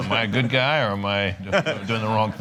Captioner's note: laughter